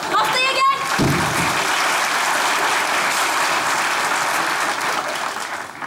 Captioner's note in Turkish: Alkış sesleri